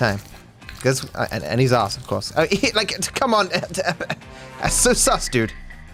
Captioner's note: stammers